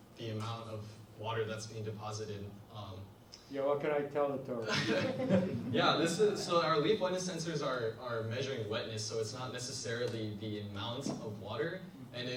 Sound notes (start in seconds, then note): 4.7 laughs; 4.7 audience laughs